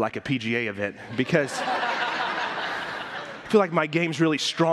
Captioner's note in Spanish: la congregación se ríe